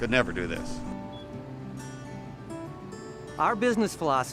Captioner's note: acoustic guitar continues; device beeps